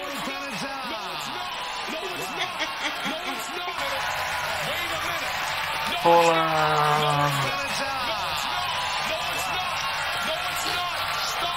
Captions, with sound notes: (laughs) (applause) - No it's not! No it's not! No it's not! No it's not!